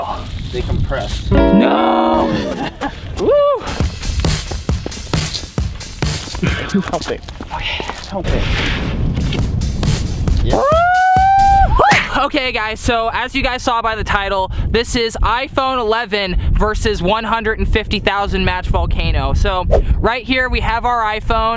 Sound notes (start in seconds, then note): 3.8 fast music; 10.5 screaming